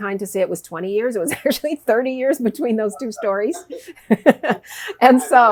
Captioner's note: laughs